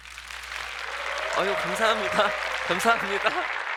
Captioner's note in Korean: 박수 소리